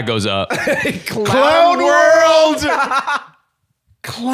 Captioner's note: laughs